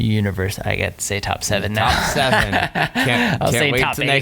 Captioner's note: laughing